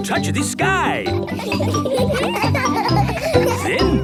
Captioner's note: laughter